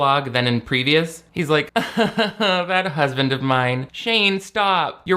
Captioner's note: laughs